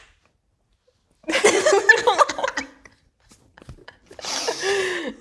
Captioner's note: both laughing